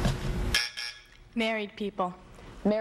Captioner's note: buzzer